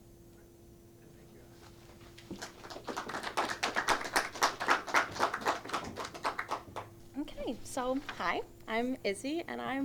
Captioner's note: clapping